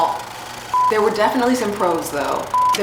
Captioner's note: beep; beep